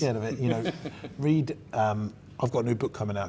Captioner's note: laughing